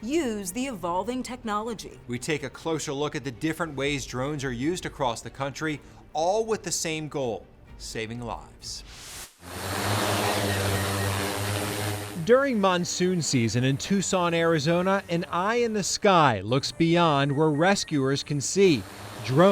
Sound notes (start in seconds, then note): 9.4 drone buzzing